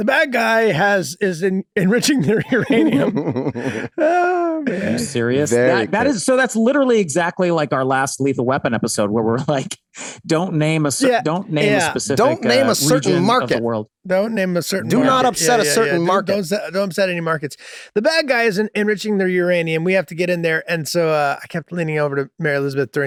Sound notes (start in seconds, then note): 2.1 Charlie and Rob laughing amusingly; 11.6 Glenn laughing amusingly